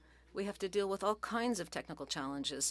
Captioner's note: speaking French